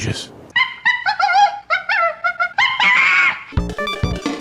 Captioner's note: chimpanzee noises